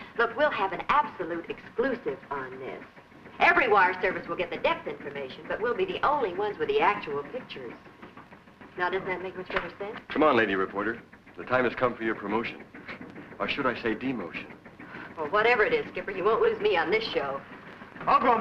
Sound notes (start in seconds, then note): 13.0 chuckles